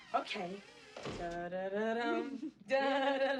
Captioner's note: hums